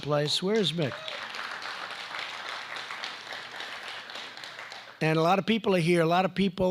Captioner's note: applause